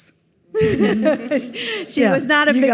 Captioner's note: audience laughs